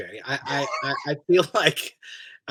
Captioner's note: laughs